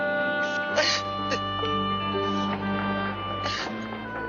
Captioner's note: Sylvia crying